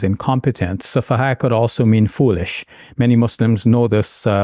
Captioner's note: speaking in Arabic